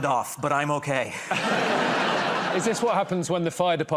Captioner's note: laughter